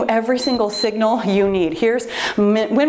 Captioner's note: timer beeps